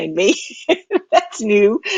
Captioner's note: laughing